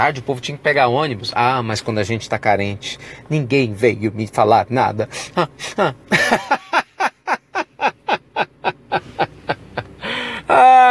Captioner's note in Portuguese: risos